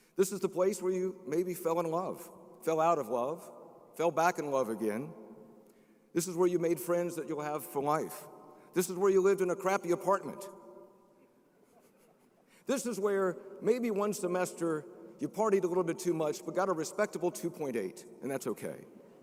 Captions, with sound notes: This is the place where you maybe fell in love, fell out of love, fell back in love again. This is where you made friends that you'll have for life. This is where you lived in a crappy apartment. (crowd chuckling) (chuckles) This is where maybe one semester you partied a little bit too much, but got a respectable 2.8, and that's okay.